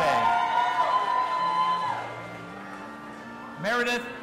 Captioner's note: audience applauding and cheering